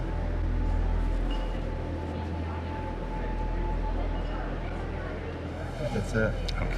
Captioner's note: tense music; guests chattering